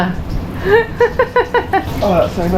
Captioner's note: laughs